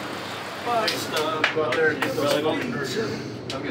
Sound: clapping

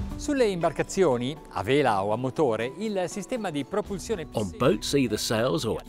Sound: speaking in foreign language

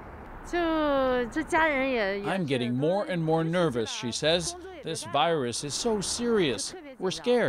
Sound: speaking foreign language

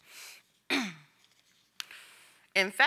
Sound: coughs

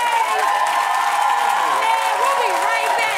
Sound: cheering and applause

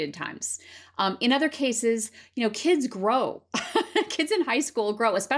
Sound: laughter

